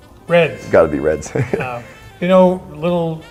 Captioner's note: laughs